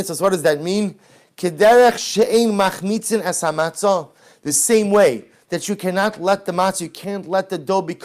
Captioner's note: Hebrew